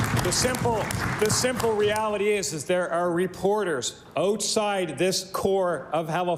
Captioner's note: applause